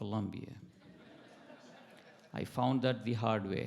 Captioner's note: attendees laughing